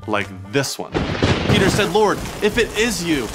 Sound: thunder crashing

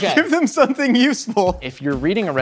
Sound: laughs

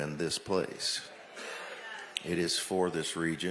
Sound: audience exclaims

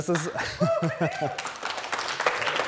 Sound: audience applauding

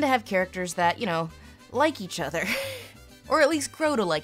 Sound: she laughs

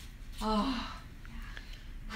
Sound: big breath of relief

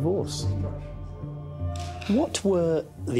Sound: camera snapping

